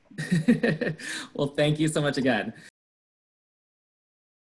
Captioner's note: laughs